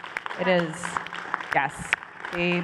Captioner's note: applause